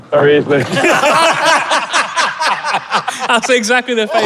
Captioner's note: group laughing uproariously